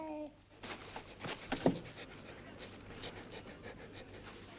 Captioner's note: Beast panting